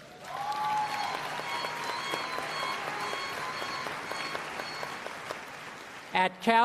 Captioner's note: applause